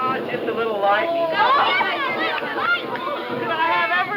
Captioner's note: children yelling